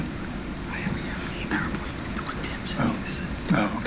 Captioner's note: whispering